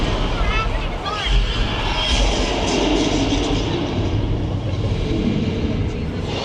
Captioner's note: dinosaur roars